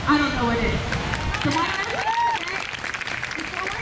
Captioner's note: crowd cheers